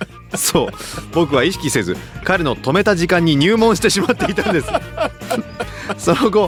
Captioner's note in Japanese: 笑い; 笑い